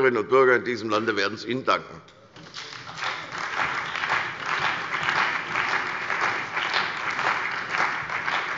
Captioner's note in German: Beifall bei der CDU und dem BÜNDNIS 90/DIE GRÜNEN